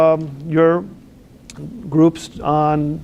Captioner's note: lip smacks